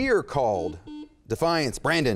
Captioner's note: beep